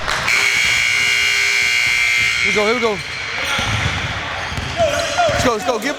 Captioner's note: buzzer